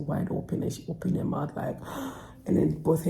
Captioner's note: gasps